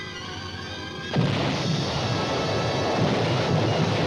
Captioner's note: cannon fire